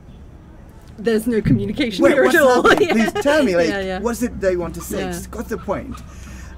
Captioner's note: laughing